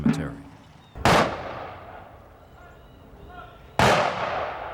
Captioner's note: gunshots